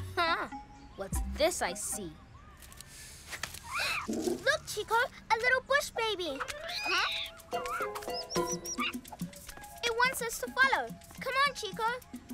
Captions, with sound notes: Huh. What's this I see? - (Chitters softly) - Look, Chico! A little bush baby! Huh? (Squeaky chittering) It wants us to follow! Come on, Chico.